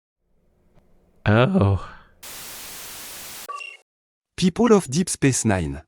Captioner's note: static, beep